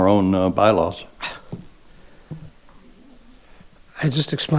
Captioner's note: sighing